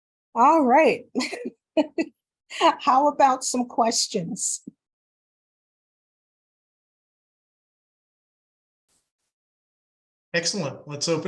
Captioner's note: laughs